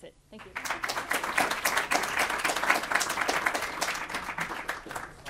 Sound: audience applauds

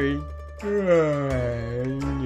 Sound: yawn

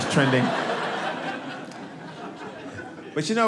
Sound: audience laughing

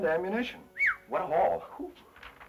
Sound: whistles

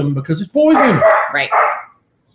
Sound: dogs barking

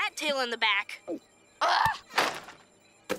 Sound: groaning

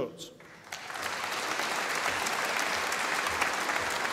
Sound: audience applauding

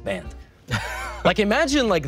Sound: Toast chuckles

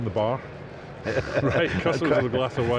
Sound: laughing

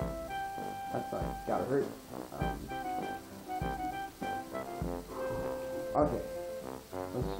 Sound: I take a deep breath

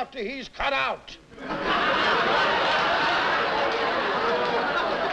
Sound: laughter

